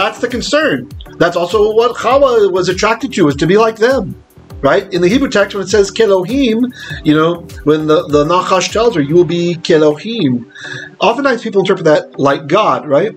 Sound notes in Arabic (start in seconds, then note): 6.2 بالعبرية; 9.5 بالعبرية